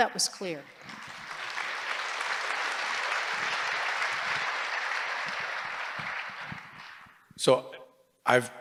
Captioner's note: applause